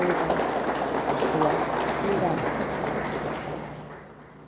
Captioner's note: audience applauds; speaks faintly